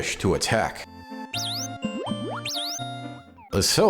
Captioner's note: chirping Alert Sounds